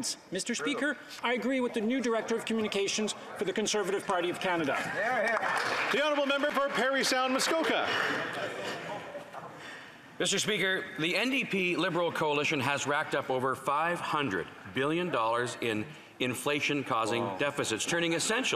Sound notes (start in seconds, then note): 9.4 applause